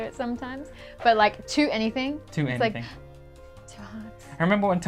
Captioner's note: gasp